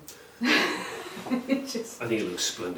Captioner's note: laughs